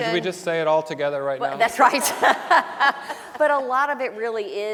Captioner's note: laughs; audience laughing